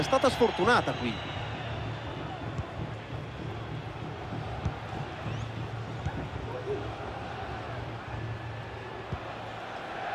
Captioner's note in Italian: Applauso